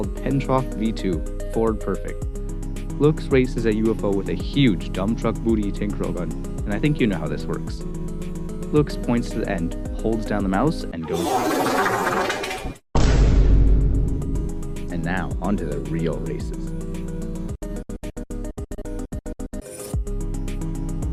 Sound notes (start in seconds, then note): 11.1 impossibly loud toilet noise; 12.9 Cringe vine boom